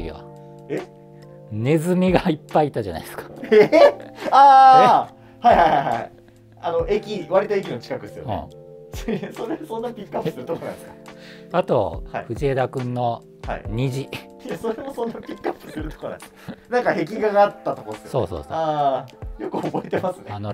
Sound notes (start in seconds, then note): 14.4 laughing